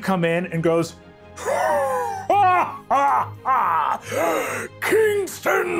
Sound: laughing hysterical

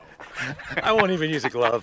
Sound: laughs

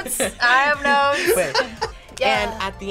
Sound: React laughs

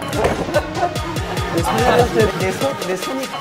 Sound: laughing

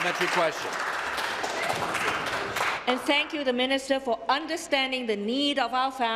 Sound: applause

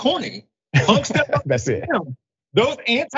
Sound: laugh

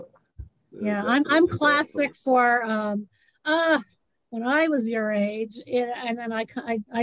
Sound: moans

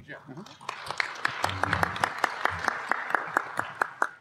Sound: applause

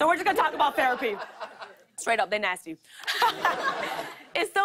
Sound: laughter

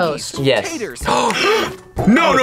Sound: both gasp

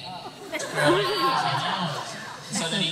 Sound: laughter

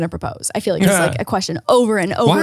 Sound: laughs

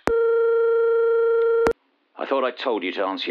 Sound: phone ringing

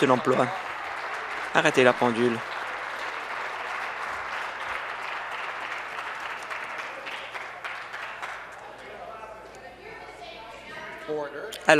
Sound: applause

